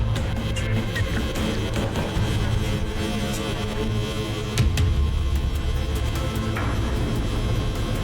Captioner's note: light buzzing; intense music builds